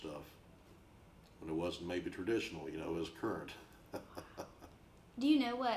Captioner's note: chuckles